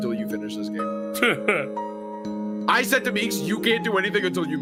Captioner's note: laughs